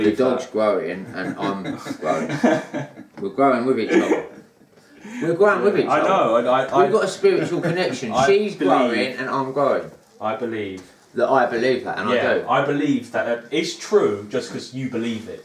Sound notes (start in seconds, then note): 1.0 laughing